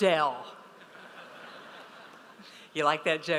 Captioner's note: audience laughs